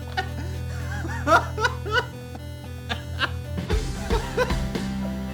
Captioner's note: laughter